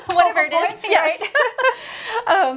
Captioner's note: laughing